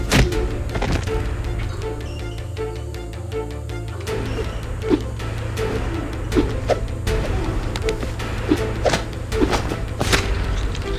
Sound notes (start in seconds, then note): 6.3 air whipping